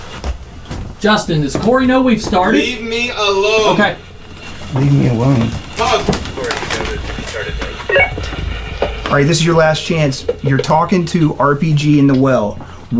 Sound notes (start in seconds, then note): 7.1 radio beeps; 7.1 radio chattering